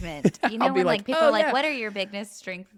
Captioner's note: laughs